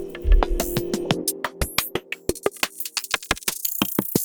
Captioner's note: digital sounds